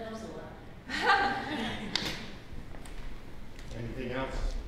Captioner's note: laugh